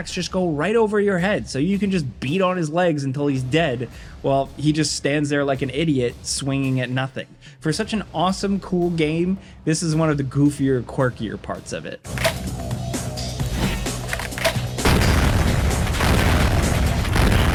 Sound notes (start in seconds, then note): 12.0 dynamic music; 13.4 sword clanking; 13.4 gun clacking; 13.5 gun blasting